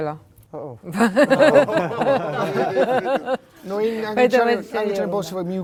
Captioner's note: laugh